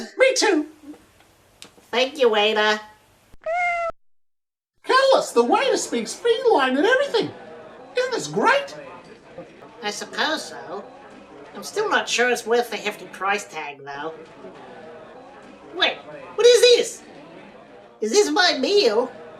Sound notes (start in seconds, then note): 3.4 realistic cat meow